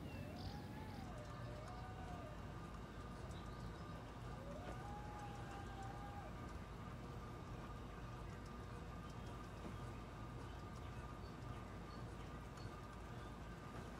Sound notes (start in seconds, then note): 1.4 howling continues